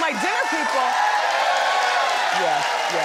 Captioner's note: audience cheers